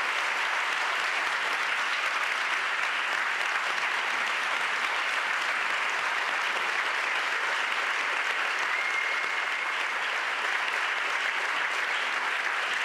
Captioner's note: applause